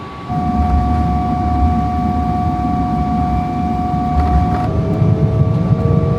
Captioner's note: engine rumbling continues